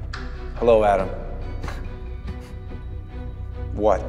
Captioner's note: Adam chuckling